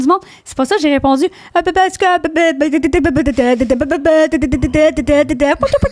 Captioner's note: in french; babbling; DJ sounds